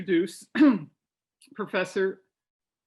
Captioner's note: clears throat